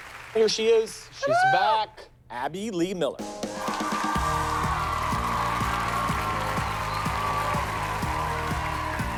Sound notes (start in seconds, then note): 3.5 cheers and applause